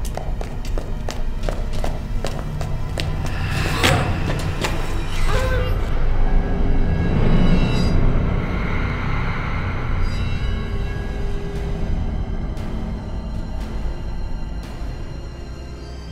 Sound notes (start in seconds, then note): 0.0 footsteps echoing; 5.3 grunting; 11.3 dramatic music